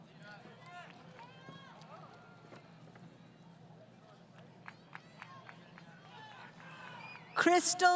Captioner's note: applause